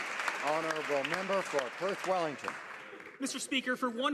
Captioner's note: some Applause